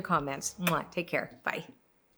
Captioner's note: smacks kiss